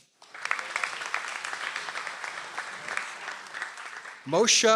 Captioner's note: audience applauds